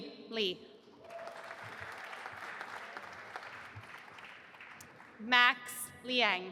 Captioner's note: audience applauding